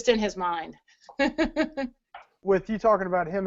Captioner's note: laughs